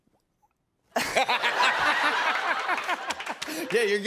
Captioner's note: laughter